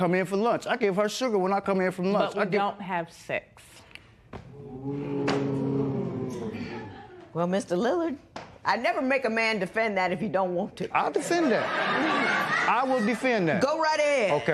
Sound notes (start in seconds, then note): 4.6 spectators "Ooh"; 11.1 laughter